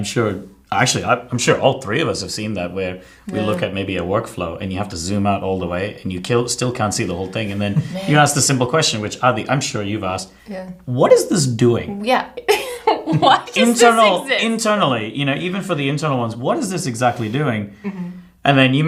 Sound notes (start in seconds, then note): 12.4 giggles